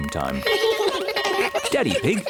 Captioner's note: all giggle